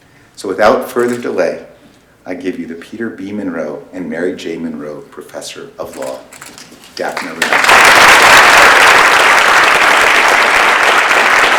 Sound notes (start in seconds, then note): 7.1 applause